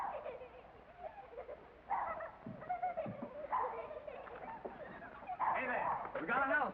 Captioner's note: sound of children playing